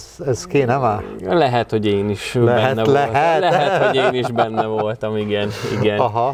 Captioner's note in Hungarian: nevetés